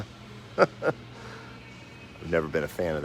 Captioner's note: laughs